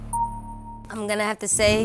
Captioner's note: pleasant dings